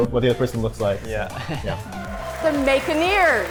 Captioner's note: laughs